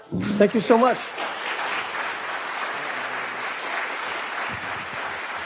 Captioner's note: audience clapping